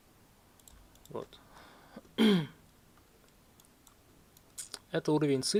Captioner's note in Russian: откашливается